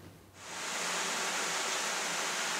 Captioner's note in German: Duschgeräusch